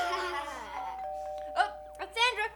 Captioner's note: doorbell ringing